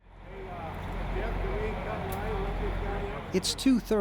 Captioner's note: buses idling